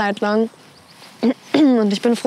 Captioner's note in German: Räuspern